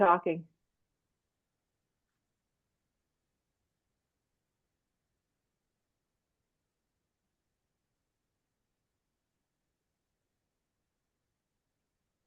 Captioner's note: silence